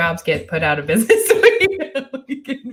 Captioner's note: laughs